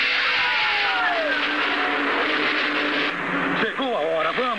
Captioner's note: Colt On Radio